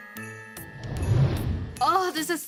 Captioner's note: upbeat music; whooshing